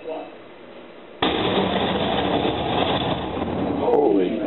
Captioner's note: explosion